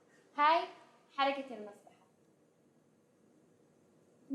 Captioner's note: non-english speech